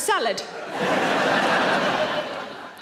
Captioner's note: audience laughing